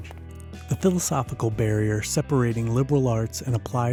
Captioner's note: voiceover